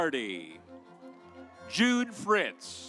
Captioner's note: audience applauds